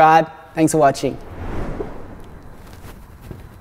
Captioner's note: whooshing